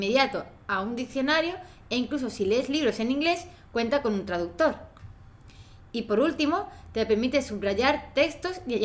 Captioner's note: Spanish